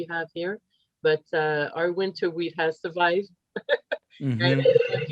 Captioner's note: laughs